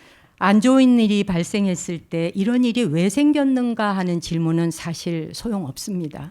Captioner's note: speaking in Korean